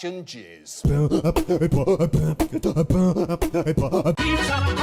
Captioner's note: beatboxing